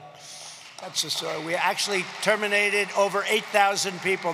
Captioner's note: applause